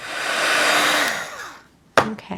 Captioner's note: heat gun whirring